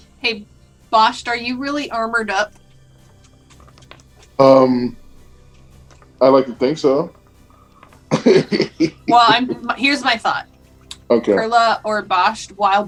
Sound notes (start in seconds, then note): 8.1 laughter